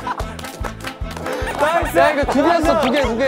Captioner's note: haha; laughing